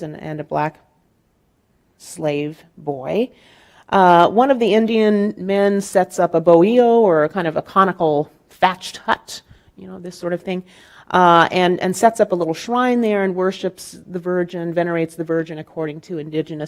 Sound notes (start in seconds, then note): 6.3 speaking in Spanish